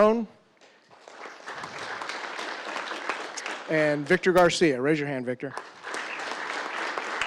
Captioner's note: applause